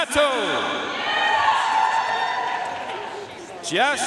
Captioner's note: audience cheering and applauding